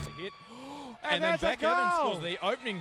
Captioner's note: announcer 1 gasps